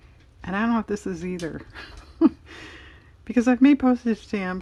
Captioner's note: laughs